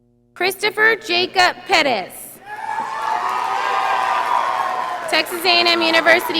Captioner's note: audience applauding